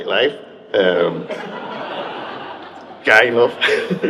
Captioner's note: audience members laugh